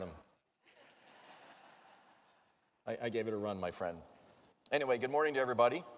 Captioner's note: laugh